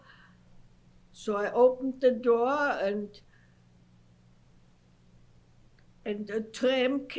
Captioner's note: pauses for 3 seconds